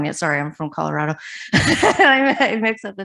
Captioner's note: laughs